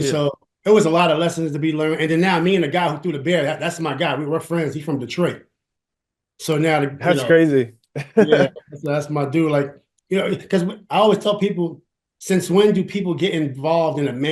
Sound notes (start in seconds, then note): 8.0 laughs